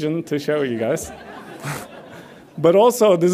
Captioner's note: audience laughs